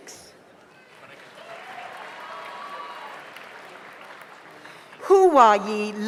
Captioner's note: audience applauds; audience cheers